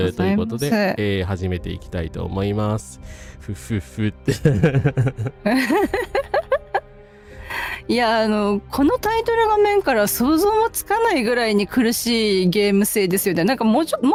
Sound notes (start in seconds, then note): 4.2 laughter